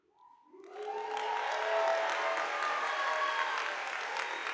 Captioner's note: audience applauding